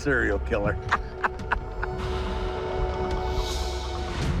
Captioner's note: chuckling